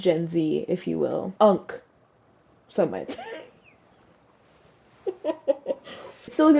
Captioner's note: laugh